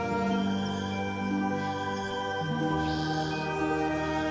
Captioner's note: birds chirping